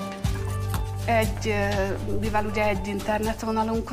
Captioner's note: non-english speech